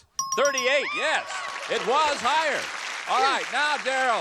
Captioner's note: exclaims